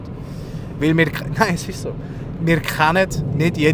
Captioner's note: laughs